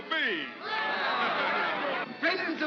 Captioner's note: crowd cheers